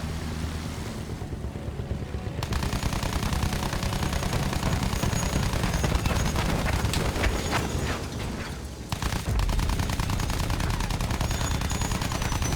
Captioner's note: gun fires